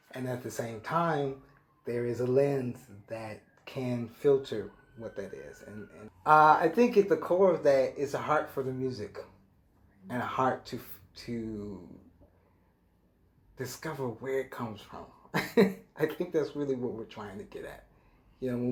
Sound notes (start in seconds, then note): 15.3 chuckles lightly